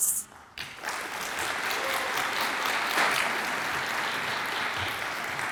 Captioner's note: audience applauds and cheers